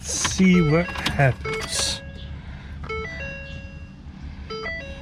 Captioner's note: car beeps